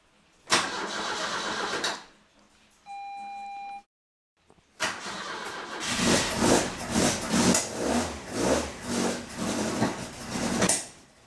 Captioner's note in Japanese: エンジン音